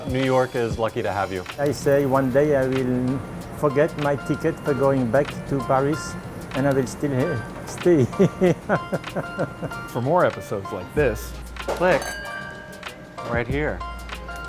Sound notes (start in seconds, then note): 7.8 laughs